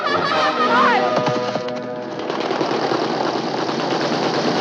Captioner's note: laughing; wind blowing